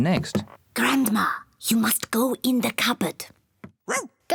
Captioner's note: whispers; barks